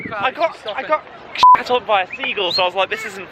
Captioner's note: beep